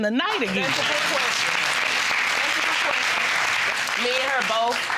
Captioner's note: audience applauding